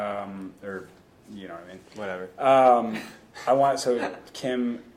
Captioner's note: laughs